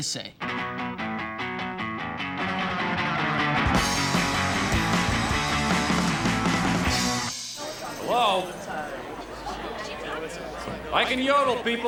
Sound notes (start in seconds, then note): 0.5 fast rock music; 7.0 chattering